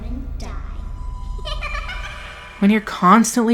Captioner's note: laugh